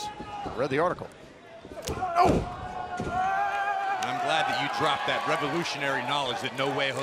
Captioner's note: crowd cheering